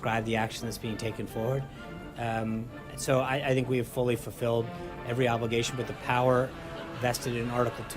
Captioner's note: raucous laugh track